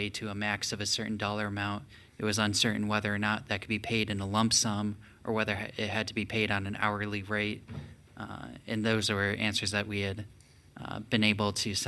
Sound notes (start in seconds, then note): none